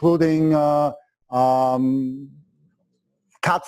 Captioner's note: pause